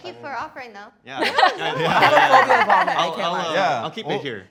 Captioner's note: participants laugh, speak indistinctly